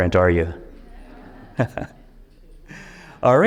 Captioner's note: audience chuckles